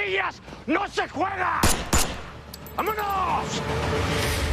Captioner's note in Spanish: Disparos